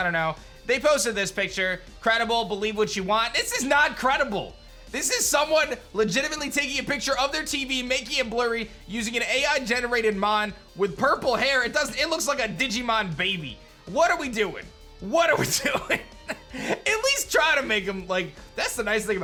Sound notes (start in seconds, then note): 15.4 chuckles